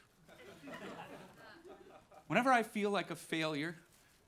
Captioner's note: audience laughing